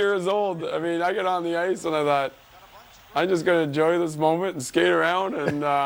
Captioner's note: laughter